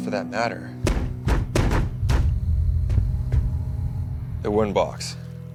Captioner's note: feet stomp rhythmically